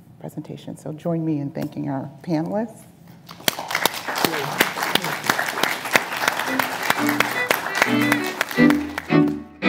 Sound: applause

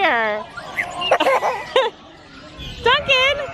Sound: laughs

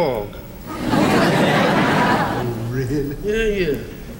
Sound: audience laughs

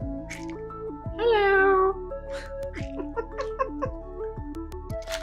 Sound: laughter

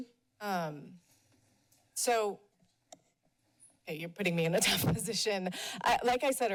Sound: laughs

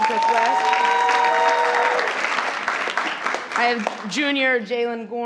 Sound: crowd cheering and clapping

